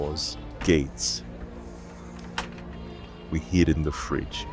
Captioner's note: shutting door sound effect